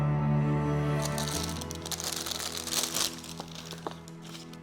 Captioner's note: gentle music; paper crackling